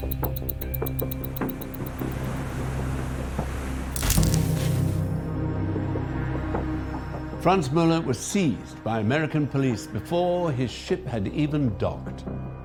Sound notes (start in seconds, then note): 0.0 watch ticking; 4.0 camera snapping